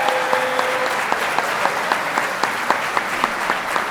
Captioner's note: applause